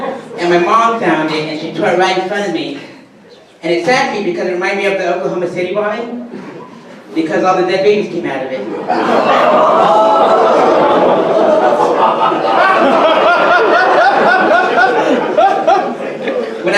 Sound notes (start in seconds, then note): 11.8 audience laughter and groans